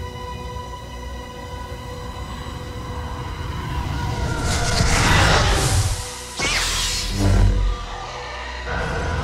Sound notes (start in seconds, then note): 2.0 roaring; 3.7 whooshing; 6.6 zapping; 7.4 buzzing